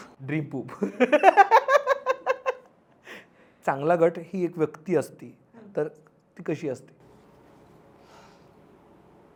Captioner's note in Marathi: हास्य